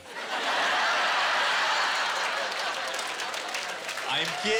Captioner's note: laughter